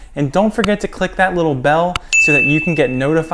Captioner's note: bell chiming